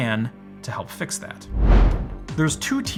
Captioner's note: air whooshing